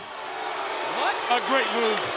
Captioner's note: audience shouting